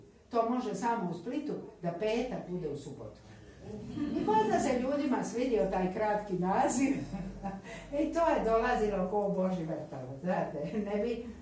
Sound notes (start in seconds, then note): 3.8 laughter